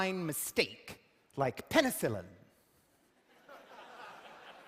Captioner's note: laughter